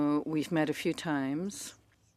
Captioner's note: speaking French